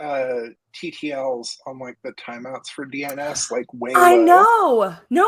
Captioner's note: laughs